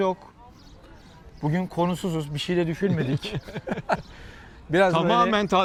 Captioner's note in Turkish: kahkaha